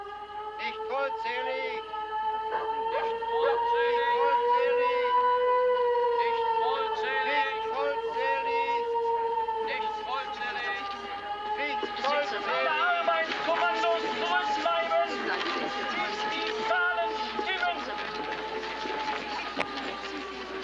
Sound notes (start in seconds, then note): 0.2 loud blast of siren; 4.0 siren blasting and guard commanding; 7.2 siren blasting and dog barking; 10.8 siren blasting and guard commanding; 17.2 guard talking loudly; 20.4 siren blasting